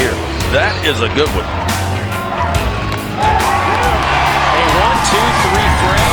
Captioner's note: cheering